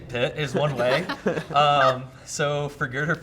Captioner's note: everyone laughing